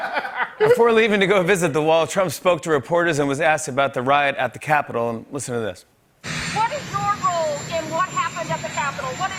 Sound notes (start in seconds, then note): 0.0 laughter; 6.1 engine rumbling